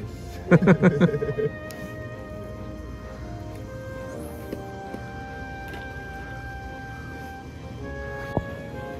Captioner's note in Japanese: 笑い声